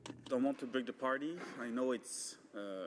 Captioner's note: speaking in french